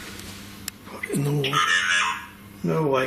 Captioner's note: voice On Radio